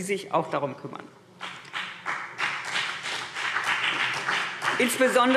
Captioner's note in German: Beifall CDU und BÜNDNIS 90/DIE GRÜNEN